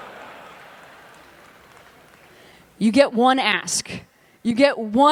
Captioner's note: laughter